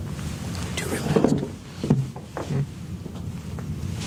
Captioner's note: whispering